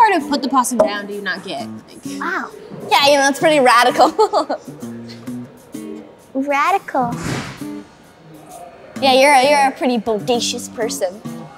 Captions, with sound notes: what part of put the possum down do you not get? - Wow. - Yeah, you know, that's pretty radical (laughs). - Radical? - Yeah, you're a pretty bodacious person.